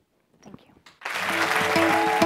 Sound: applause

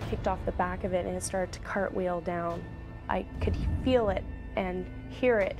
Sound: voiceover; snowmobile engine roaring

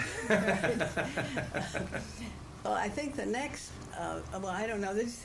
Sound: laughter

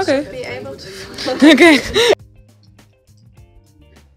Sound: host laughs

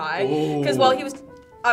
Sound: group oohs

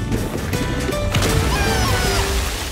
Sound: Snoopy yells

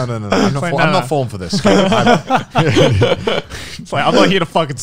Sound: everyone laughs

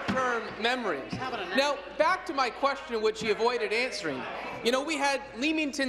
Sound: applause

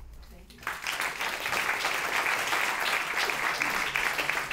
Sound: applause

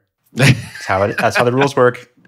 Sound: laughing

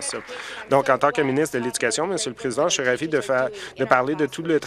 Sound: applause

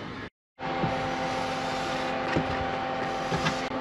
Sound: engine compartment sounds

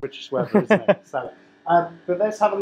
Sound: laughing

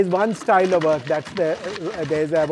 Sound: feet clatter

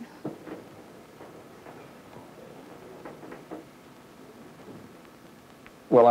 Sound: silence

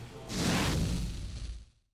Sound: whoosh

